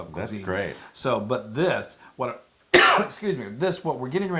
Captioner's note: cough